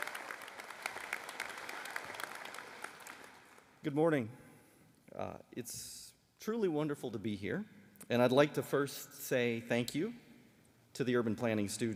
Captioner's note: applause